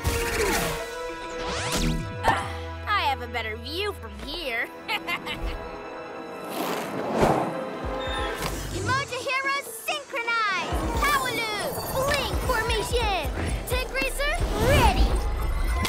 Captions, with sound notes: Ah! I have a better view from here. (Snickers) Kimoja Heroes, synchronise. - Power Loop! - Fling Formation! Tech Racer, ready.